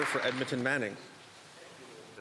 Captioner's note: applause